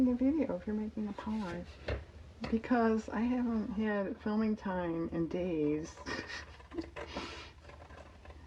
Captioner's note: laughs